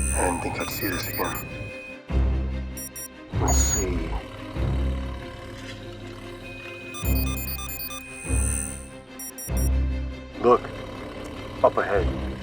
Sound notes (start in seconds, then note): 3.4 beeping; 4.3 whirring; 6.4 beeping